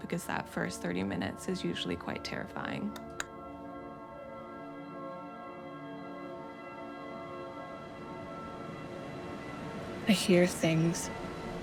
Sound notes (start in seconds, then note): 2.9 light switch clicks off; 3.9 low tense music